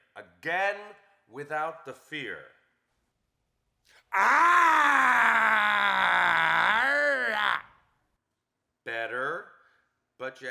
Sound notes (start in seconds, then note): 4.1 actor roars